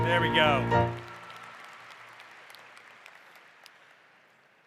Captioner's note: applause